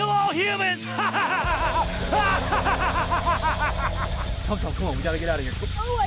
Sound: maniacal laughter

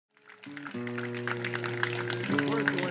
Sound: applause and acoustic guitar plucking

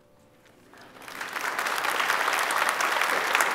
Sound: applause

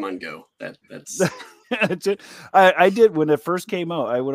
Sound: laughs

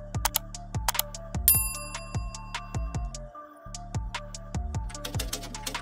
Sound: upbeat music; computer mouse clicks; bell chimes; typewriter clicks

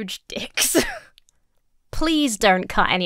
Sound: breaks into laughter

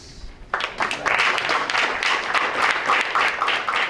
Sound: applause

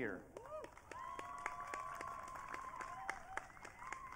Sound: audience cheering

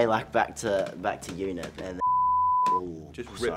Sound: curses

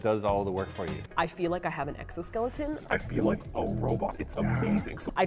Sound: robotic voice

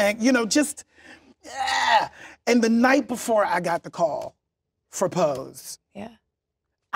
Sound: retches

